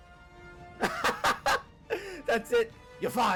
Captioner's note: laughs